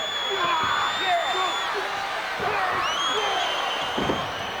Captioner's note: Haku grunts; body thuds